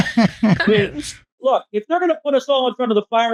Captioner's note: laughing